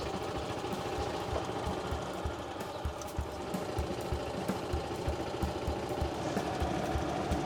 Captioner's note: birds, golf cart engine